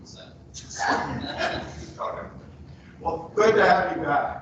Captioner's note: people laughing